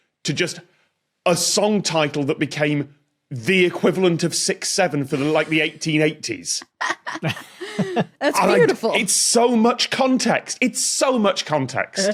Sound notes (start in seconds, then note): 6.6 laugh